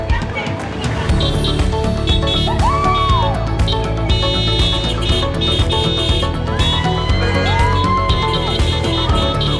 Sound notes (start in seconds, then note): 1.1 horns honking; 6.3 crowd cheering